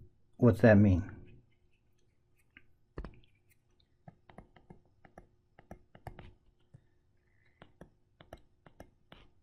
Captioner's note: tapping Sounds